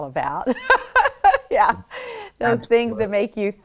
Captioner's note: laughs